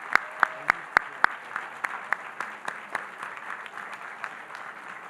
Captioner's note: audience applauding